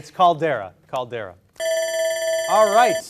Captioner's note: alarm rings